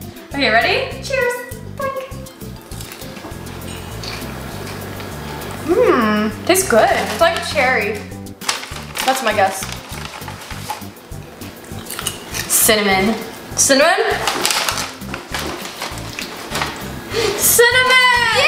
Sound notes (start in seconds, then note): 2.4 popcorn crunching